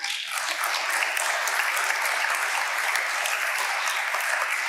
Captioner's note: audience applauding